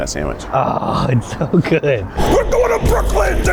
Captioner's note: groans